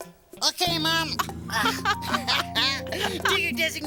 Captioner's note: both laughing